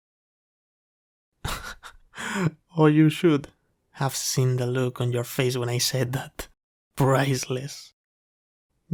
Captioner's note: laugh